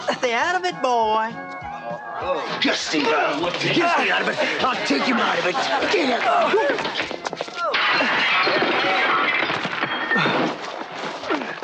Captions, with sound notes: - Stay out of it, boy. - Just see that look, did you see, I'll teach him how big, (window crashes)